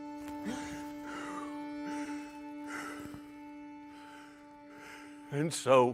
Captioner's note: poet breathing deeply